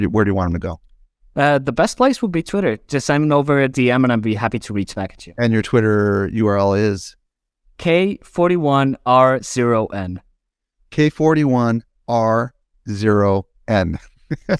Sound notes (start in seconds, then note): 14.0 laughs